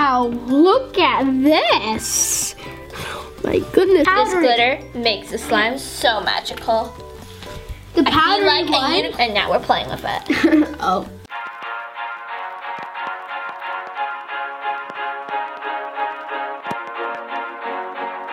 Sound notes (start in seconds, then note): 10.2 giggles; 12.8 upbeat music plays